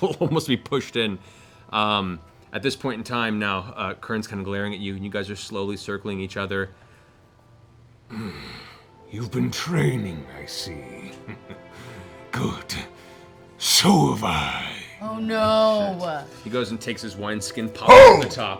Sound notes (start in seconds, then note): 7.9 grunts